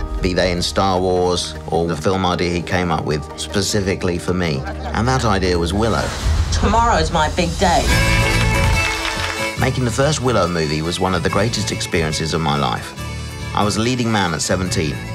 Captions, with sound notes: be they in Star Wars, or the film idea he came up with specifically for me. And that idea was Willow. WILLOW Tomorrow is my big day. [Applause] WARWICK DAVIS Making the first Willow movie was one of the greatest experiences of my life. I was a leading man at 17.